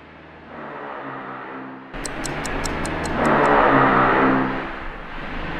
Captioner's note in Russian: звуки дрели